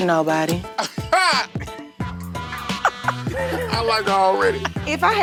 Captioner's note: laughing